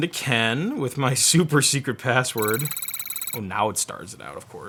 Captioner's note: futuristic beeping